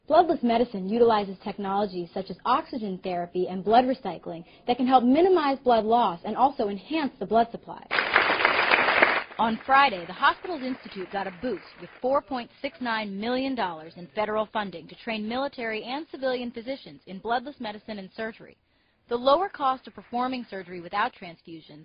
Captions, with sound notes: Bloodless medicine utilises technology, such as oxygen therapy and blood recycling, that can minimize blood loss and also enhance the blood supply. ...(Applause)... On Friday the hospital institute got a boost, $4.69 million in federal funding to train military and civilian physicians in bloodless medicine and surgery The lower cost of performing surgery without transfusions,